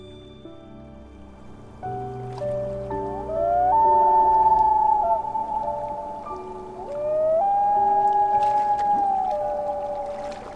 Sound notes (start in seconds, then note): 3.1 loon cry